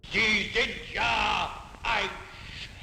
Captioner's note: speaking in German